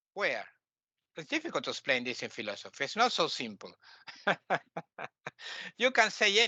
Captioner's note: laughing